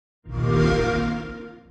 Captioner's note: xbox sound